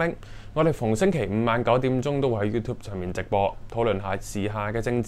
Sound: in Cantonese only

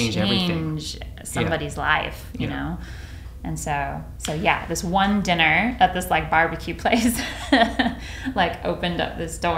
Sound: laughs

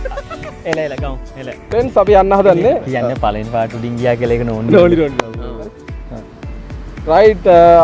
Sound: laughing

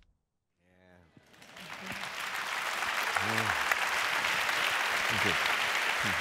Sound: applause

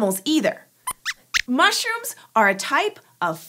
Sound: squeaks

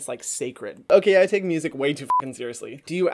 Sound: beep

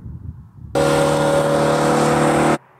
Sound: gentle wind blowing; car engine whirling; distance highway noises

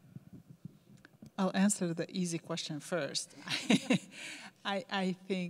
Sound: laughs

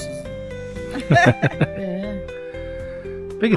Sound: laughter

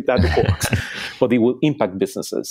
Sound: laughing

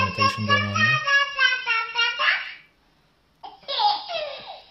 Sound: baby speaks gibberish; baby giggles

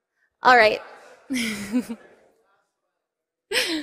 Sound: laughter

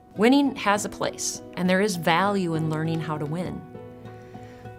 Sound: none

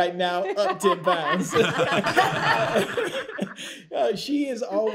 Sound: laughter

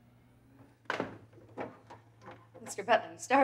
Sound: door rattles

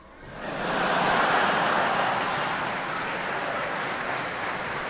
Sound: audience laughing

